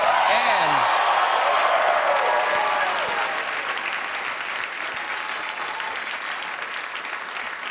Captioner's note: cheers and applause